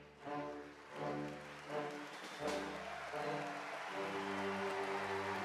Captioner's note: audience applauding